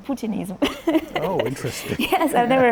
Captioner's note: laughs